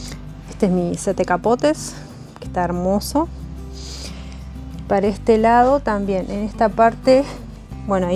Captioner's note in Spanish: resoplido